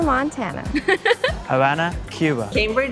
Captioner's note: laughs